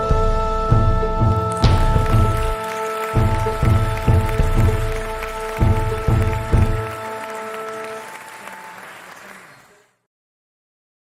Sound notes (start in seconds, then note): 1.3 audience applauding